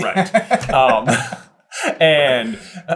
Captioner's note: chuckling